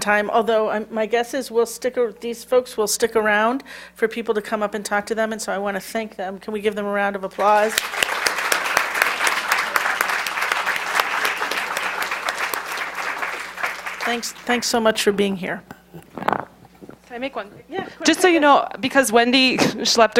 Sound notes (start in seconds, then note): 9.5 applause